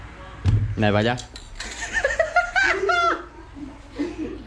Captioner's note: laughs